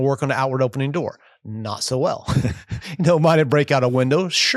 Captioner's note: laughing